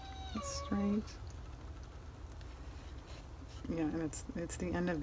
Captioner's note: dog whining